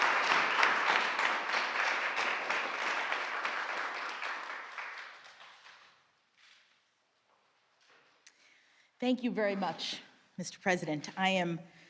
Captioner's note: applause